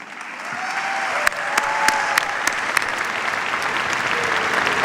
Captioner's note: cheers, applause